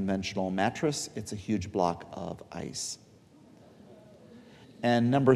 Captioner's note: audience chuckling